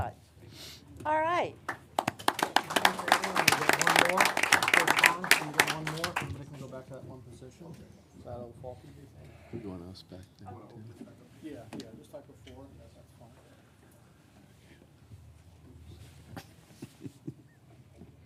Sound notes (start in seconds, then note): 4.3 applause